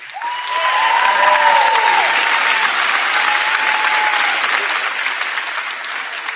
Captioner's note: crowd cheering; crowd clapping